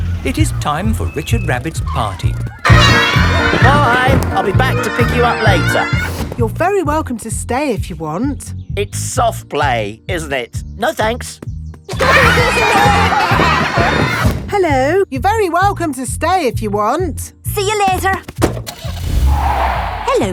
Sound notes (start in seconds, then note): 12.0 laughter; 18.6 car starting; 18.7 tires screeching